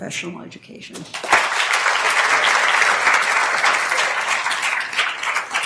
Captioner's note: attendees applauding